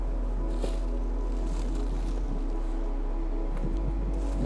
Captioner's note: feet thumping